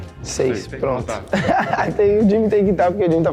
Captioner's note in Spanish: Risas